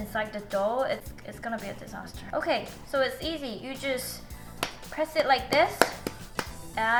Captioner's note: pounding